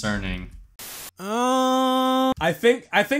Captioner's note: static